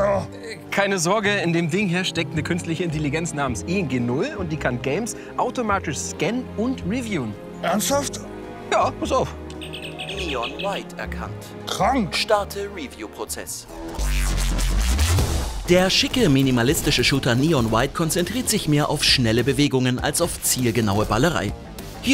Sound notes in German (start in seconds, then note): 9.6 Piepsen; 13.9 Surrende Geräusche